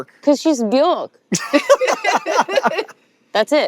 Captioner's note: laughing